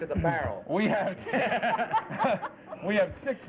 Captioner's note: laughter